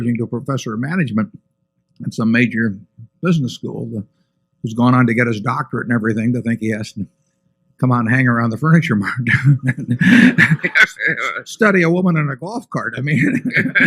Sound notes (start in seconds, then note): 9.3 laughter